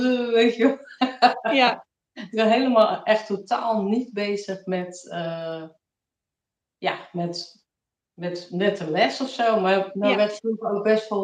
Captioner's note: laughs